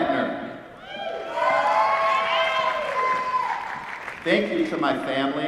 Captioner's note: applause